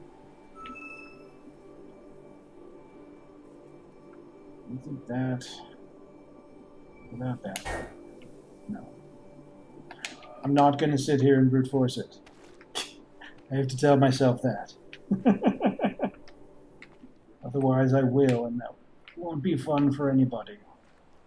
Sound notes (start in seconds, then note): 12.9 scoffs; 15.0 chuckles